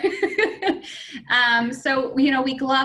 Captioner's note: laughing